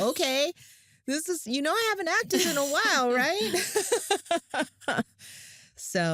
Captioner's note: laughs